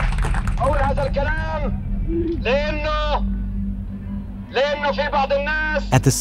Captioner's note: Arabic spoken audio